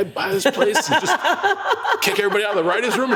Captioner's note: laugh